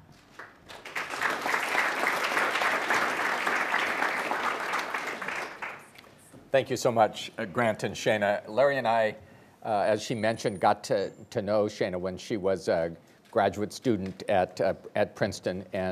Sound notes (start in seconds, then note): 0.3 attendees applauding